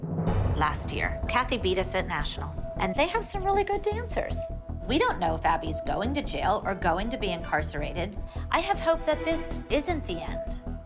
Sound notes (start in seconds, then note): none